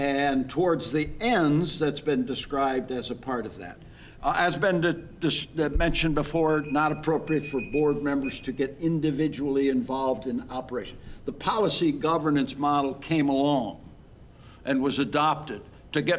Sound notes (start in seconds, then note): 6.4 timer beeping